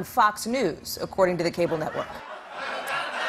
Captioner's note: laughter